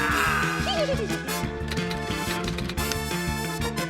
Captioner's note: giggles